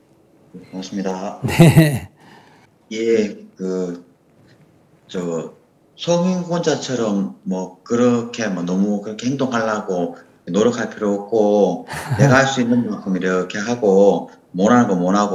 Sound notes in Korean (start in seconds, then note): 1.4 웃음; 10.4 스님 웃음